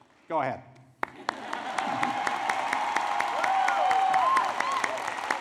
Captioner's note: applause